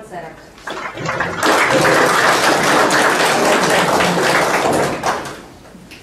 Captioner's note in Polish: oklaski